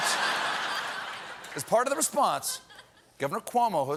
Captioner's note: laughter